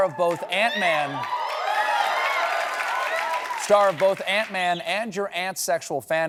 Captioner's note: cheers and applause